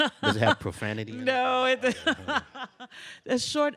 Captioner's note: laughs